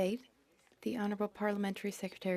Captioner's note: speaking French